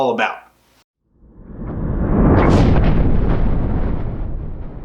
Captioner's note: thunder crashing